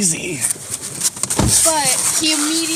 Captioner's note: rustling, car door closes; car door closes